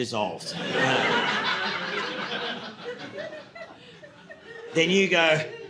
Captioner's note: audience laughing